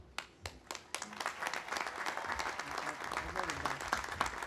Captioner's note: audience applauding